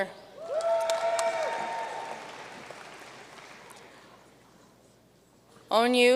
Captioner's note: audience cheering and applauding